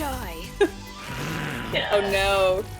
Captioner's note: grunts